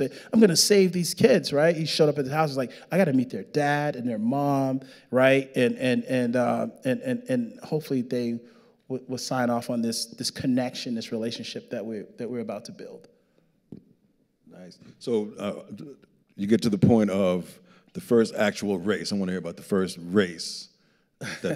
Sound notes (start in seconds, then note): 15.6 stammering